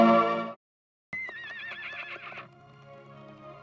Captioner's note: horse neighing